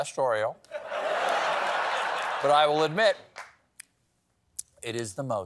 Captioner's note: laughter